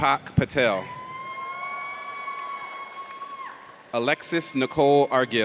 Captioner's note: audience cheers